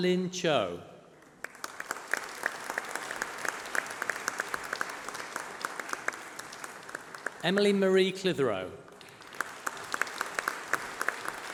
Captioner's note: applause